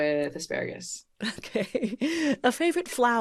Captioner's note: chuckles